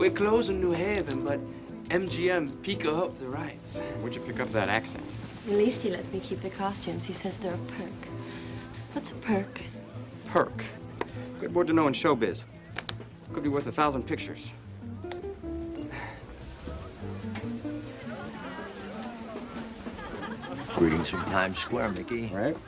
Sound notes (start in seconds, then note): 17.4 buoyant music; 17.4 patrons chatter